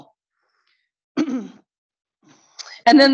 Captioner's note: clears throat